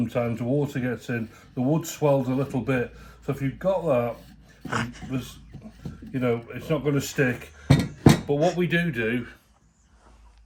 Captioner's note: sniggers